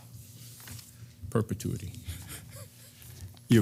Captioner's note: laugh